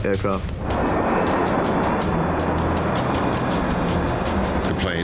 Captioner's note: plane engine humming